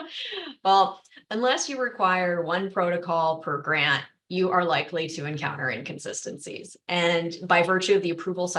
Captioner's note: laughter